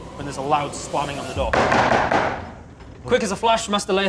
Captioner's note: bang bang bang bang